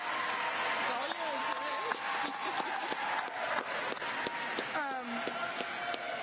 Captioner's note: applause; cheers and applause